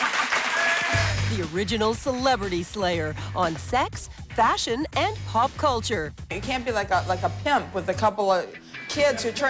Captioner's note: cheers and applause